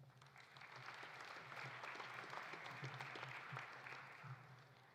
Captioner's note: audience applauding